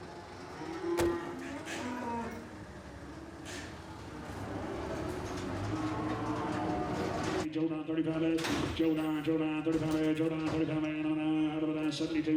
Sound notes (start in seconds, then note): 0.0 cows lowing; 5.7 truck rumbling